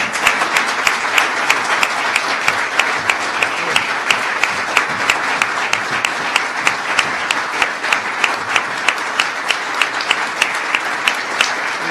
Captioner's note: applause